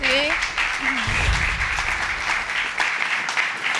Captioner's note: audience applauds